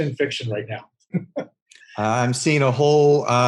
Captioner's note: laughing